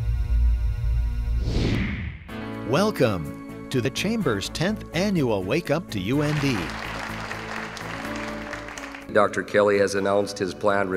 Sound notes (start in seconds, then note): 6.0 applause